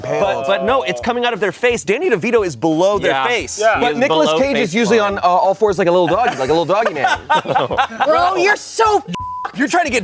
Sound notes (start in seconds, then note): 7.7 laughs; 9.1 beep